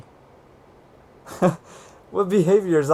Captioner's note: laughs